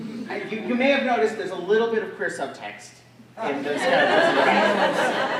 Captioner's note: drowned out by audience laughter